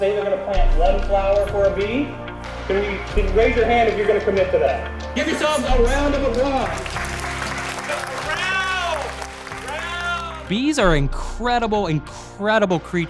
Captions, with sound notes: I'm gonna plant one flower for a bee. Raise your hand if you're gonna commit to that. Give yourselves a round of applause. (applause) Round! Round! - Bees are incredible incredible creatures,